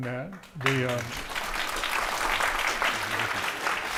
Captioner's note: audience applauding